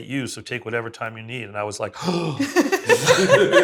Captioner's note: gasps